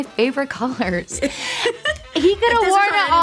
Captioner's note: host laugh